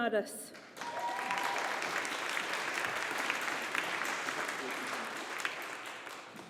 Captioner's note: audience applauding